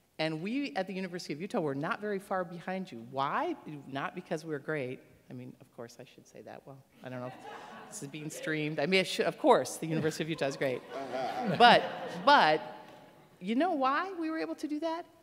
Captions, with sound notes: And we, at the University of Utah, were not very far behind you. Why? Not because we're great. I mean, of course I should say that. Well, I dunno. This is being streamed. I mean I should, of course the University of Utah is great. [laughter] But, but, you know why we were able to do that?